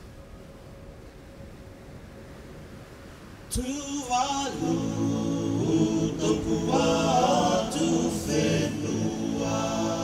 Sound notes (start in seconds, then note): none